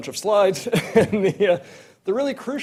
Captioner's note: laughs